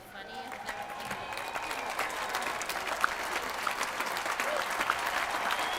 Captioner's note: applause